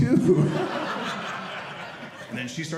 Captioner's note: audience laughing